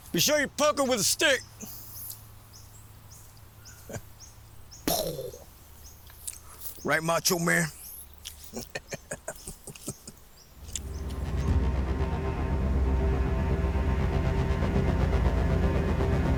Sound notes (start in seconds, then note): 4.8 Nolan imitates explosion; 8.4 chuckles; 10.6 tense music